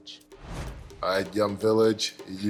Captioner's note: whooshing